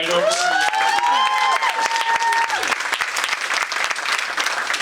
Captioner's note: audience applauding